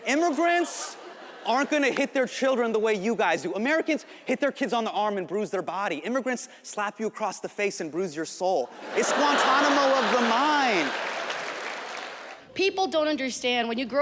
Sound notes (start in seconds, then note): 8.7 audience laughs; 11.3 audience applauds